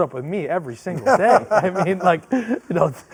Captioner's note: men laugh